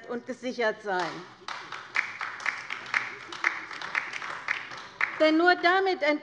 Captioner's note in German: Beifall bei der LINKEN